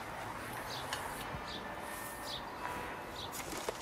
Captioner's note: distant church bell ringing